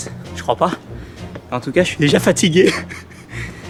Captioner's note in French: rires